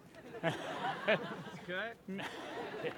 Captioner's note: laughter